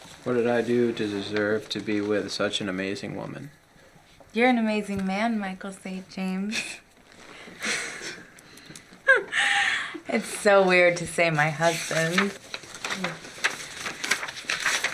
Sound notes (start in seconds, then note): 7.3 laughing